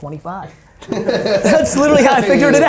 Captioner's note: laughing